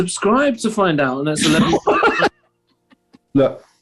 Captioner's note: laughter